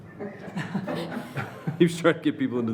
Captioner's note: laughing